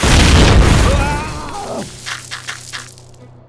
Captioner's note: POOPLOSER_69 screams